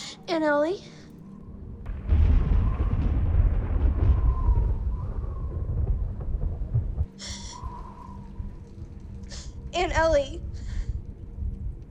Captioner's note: thunderclap